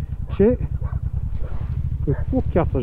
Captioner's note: barking